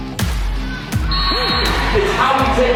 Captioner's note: whistle blows